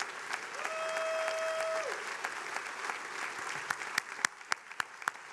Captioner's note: attendees cheering; attendees applauding